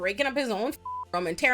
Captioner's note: beep